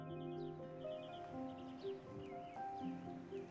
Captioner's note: birds chirping